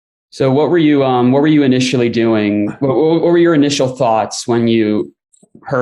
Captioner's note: laughter